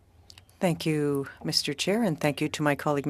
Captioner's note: speaking french